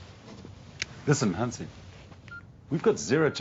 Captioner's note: beeping